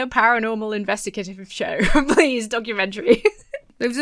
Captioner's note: laughs